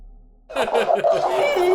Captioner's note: laughing